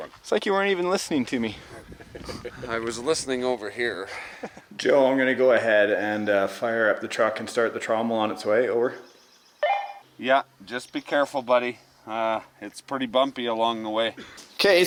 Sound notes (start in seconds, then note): 9.6 beep of radio